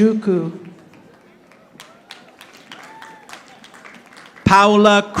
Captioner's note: audience applauding